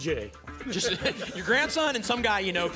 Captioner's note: laughter